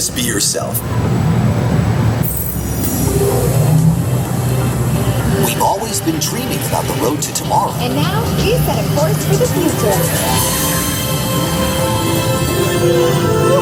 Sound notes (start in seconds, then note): 3.0 futuristic sound effects; 10.7 uplifting music